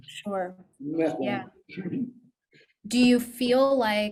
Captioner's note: chuckles